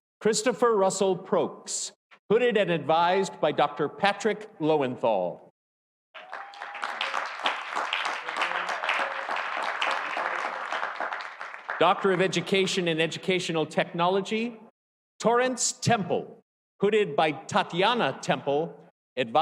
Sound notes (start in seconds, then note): 6.1 audience cheering; 6.1 audience applauding